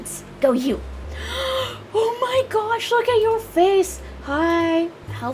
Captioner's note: gasp